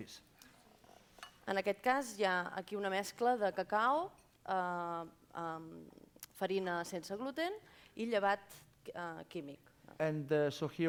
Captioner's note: non-english speech